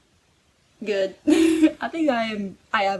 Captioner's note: laughs